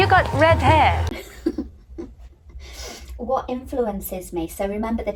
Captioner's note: laughs